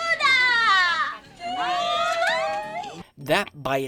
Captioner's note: cheers